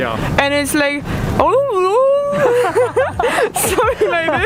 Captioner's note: mimicking Korean